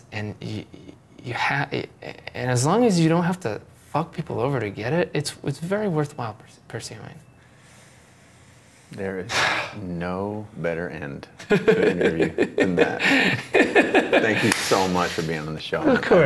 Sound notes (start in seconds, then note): 13.1 laughing